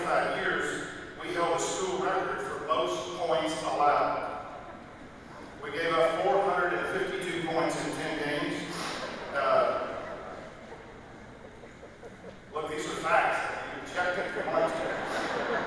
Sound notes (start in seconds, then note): 11.3 laughter